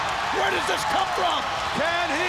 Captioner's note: crowd cheering